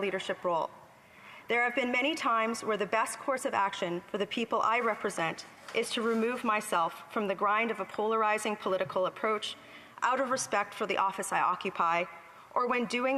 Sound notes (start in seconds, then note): none